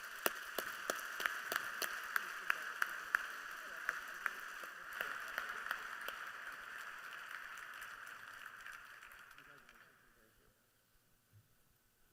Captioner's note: applause